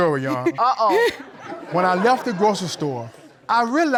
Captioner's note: battle laughs